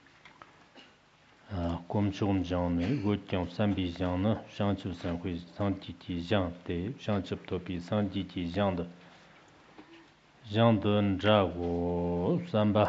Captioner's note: giving oral transmission in Tibetan